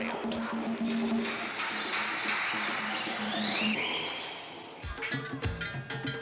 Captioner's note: drums beating; animals calling; tribal music